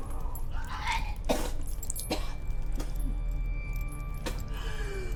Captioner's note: Lock retching and coughing